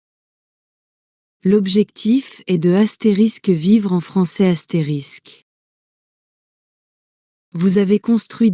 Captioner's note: live in French